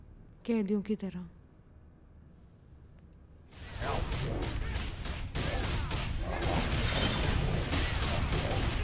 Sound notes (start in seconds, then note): 3.6 Video game playing